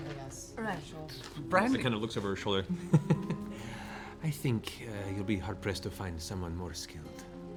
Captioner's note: laughs